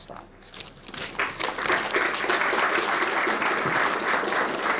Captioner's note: applause